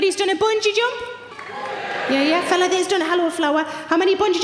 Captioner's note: audience cheering